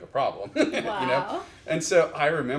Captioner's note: chuckles